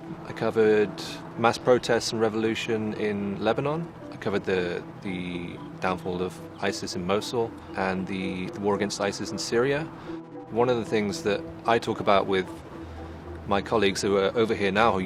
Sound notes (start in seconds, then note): none